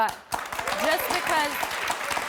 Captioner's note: applause